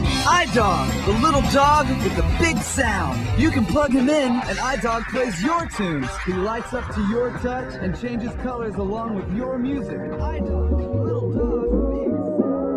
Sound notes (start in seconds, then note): 6.3 commercial audio fades out